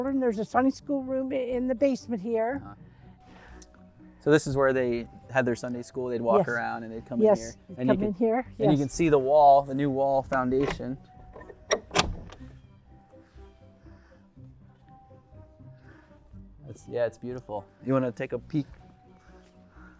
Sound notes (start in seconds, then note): 11.3 bolt sliding